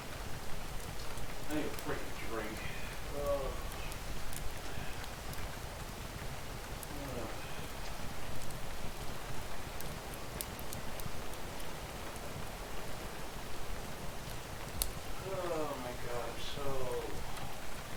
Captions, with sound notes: I need a frickin drink. *2 more sighs* Oh my god.. Im so..